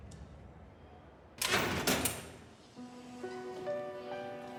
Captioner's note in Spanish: ruido en la puerta